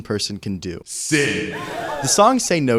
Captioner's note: sound of a crowd gasping in shock